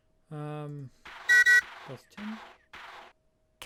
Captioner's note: choo-choo